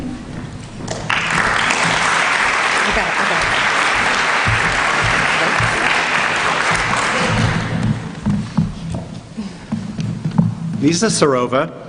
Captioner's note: applause